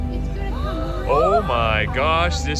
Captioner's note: excited chatter + music